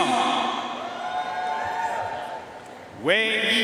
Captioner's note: audience cheering and applauding